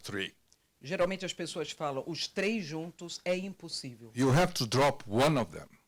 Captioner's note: translator speaking Portuguese